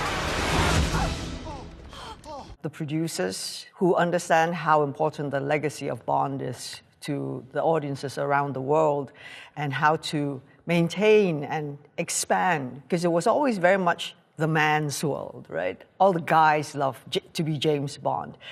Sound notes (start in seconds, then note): 1.9 gasping